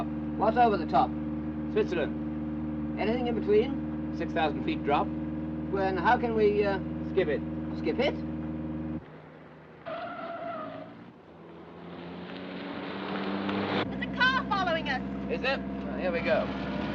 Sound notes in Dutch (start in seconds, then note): 9.1 banden gieren